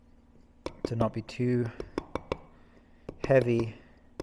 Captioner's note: metal hammering